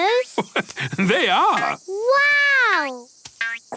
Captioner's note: laugh